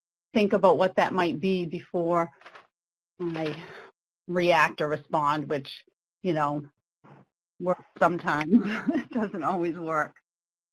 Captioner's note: laughs